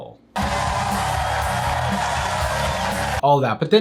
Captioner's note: crowd cheering